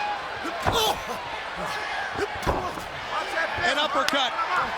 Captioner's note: fists thudding